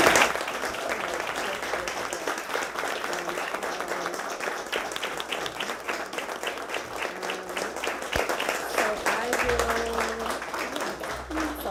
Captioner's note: applause